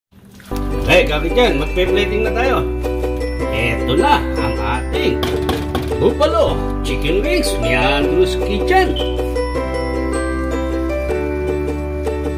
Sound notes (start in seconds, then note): 7.6 hohohohoh